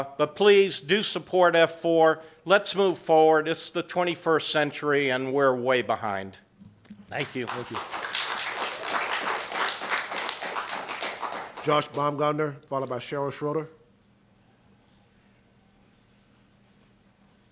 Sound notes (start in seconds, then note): 9.6 applause